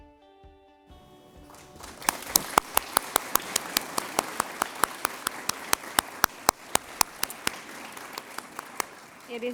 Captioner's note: applause